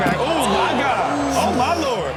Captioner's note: crowd gasps